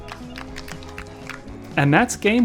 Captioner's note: polite applause